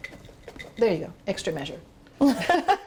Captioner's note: laughing